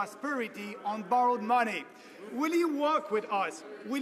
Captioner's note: some Applause